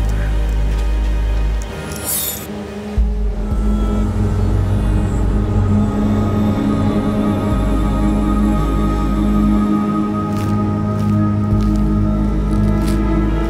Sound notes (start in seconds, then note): 1.8 knife scrapes; 4.4 eerie music